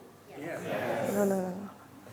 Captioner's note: audience responds